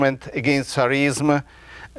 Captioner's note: speaking in a foreign language